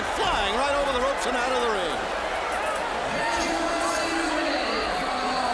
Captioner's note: crowd chatter